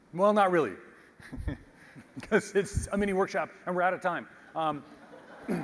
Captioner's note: laugh